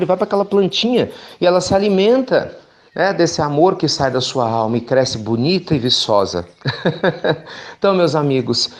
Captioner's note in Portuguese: Risos